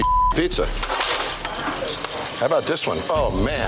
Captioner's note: tray clattering